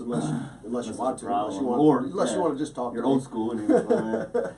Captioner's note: laughs